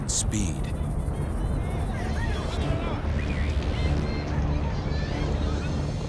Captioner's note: people shouting